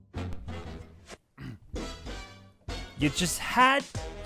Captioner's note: clears throat